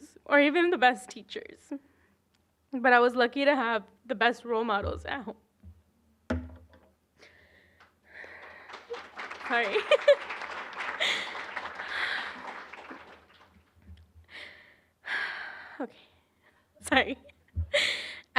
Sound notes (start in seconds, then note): 5.7 sobbing; 10.1 applause